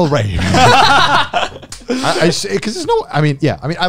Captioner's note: laughs